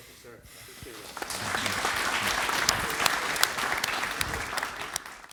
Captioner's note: applause